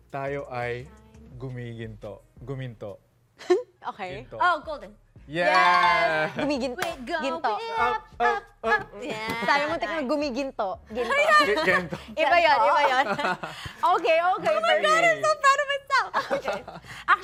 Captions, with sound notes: Gonna be, gonna be golden..." [CHUCKLES] Okay. - (In Tagalog) Gold. - Oh, Golden. Yeah! - (In Tagalog) Golden. - [SINGING] We're going Up, up, up - Yeah. - I thought it was Gento. - I know! - Oh, Gento. - It's a different song. - [SINGS] Gento... - Okay, okay. - Oh my god. - I'm so proud of myself! - Okay.